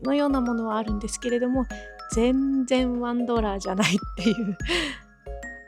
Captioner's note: haha